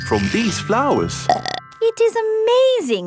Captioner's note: burps